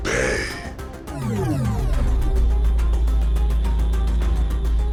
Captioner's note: ship engine revving